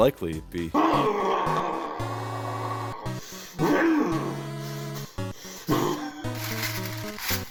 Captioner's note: Six Eye Sun snarling as he chokes a chicken